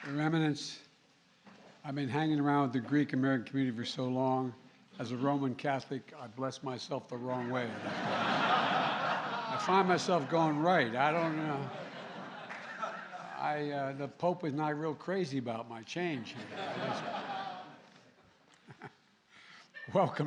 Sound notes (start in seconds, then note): 7.4 laughter; 16.3 laughter